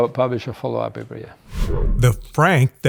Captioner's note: transition sound effect